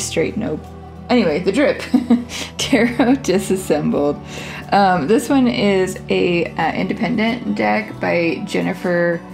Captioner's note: laugh